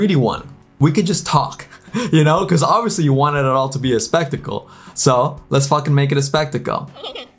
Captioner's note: laughs